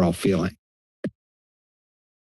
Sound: mic thumps

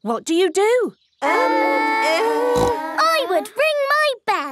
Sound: peppa snorts

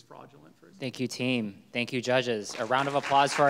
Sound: audience clapping

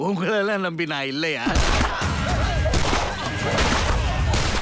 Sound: gun shots

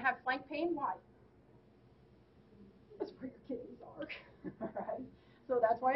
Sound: laughing

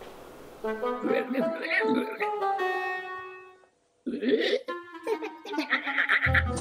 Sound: upbeat music; weird alien noises

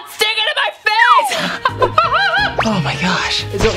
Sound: laughs

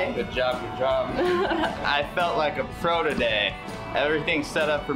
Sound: laughs

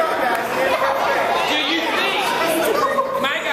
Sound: laughs

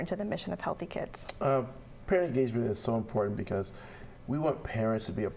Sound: uh

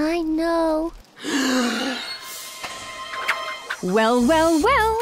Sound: gasps

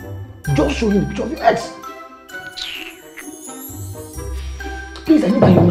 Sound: hiss

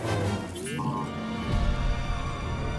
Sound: beep, trill

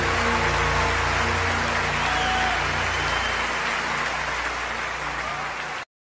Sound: applause

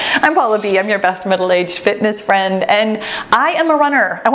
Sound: none

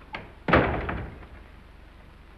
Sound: door shuts

